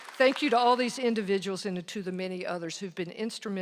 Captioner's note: applause